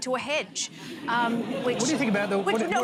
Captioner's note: laughter